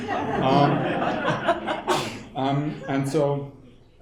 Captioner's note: people laughing